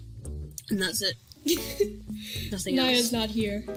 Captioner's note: laughs